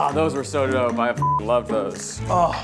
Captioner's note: beep